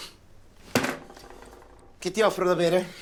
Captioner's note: thud